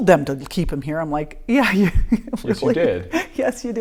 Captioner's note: laughing